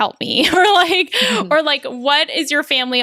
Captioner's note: laughs